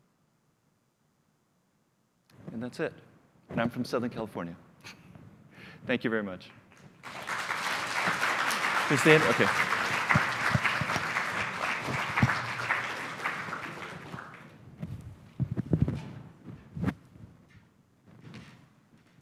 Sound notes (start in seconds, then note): 6.9 applause